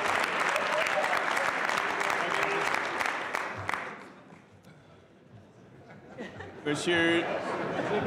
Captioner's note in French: brouhaha de voix; Applaudissements